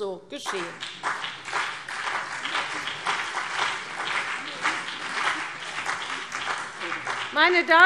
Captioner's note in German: Beifall CDU und BÜNDNIS 90/DIE GRÜNEN